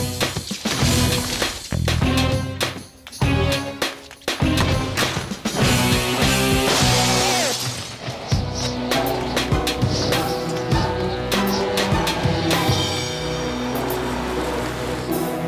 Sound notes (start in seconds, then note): 6.5 glass shatters